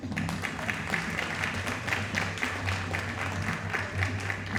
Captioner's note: audience applauding